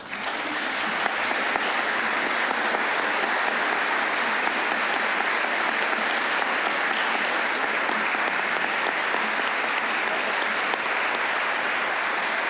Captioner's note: applause